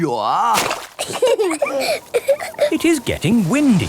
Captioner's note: both laughing